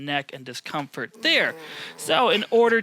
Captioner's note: groans